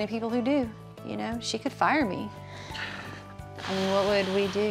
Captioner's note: sighs deeply